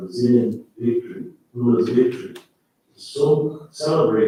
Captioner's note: faintly speaking